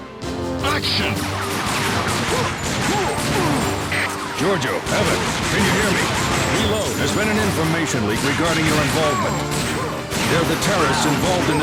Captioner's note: game audio